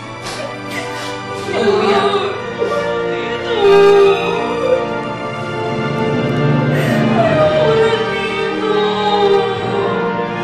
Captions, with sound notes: -[crying] -I'm sorry. Please stop crying. I don't want to stay here anymore. I don't want to stay here anymore.